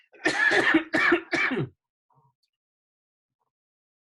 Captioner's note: coughing